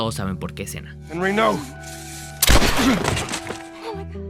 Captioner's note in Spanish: disparo